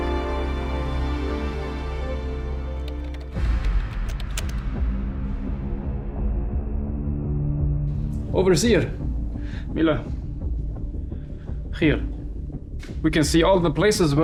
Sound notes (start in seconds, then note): 2.8 keyboard clacking; 4.5 slow dramatic music